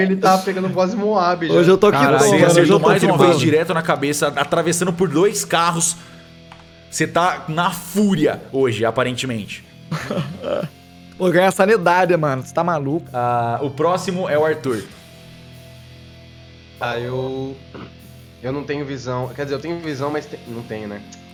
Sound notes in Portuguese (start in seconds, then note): 9.8 risos